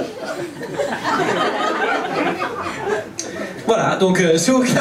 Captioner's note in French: rires public